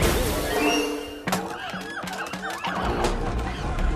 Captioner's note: monkeys hooting, shrieking